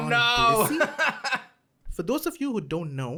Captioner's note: laughs